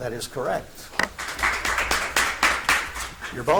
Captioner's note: audience applauds